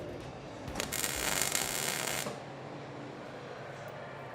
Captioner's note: welder crackling